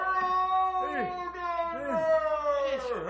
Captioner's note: yelling